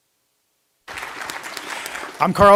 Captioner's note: applause